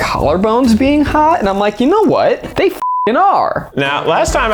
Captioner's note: beep